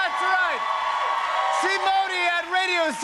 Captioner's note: cheers and applause